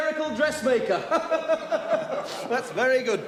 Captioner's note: all laughing